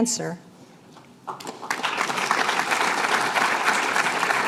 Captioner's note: applause